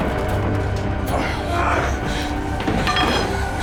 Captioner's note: brent groans